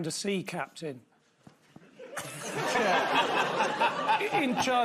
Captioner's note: scattered laughter